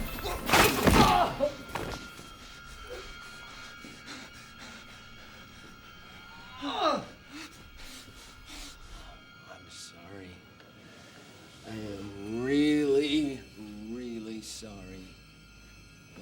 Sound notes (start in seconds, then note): 0.9 groans, Grunts; 5.6 groaning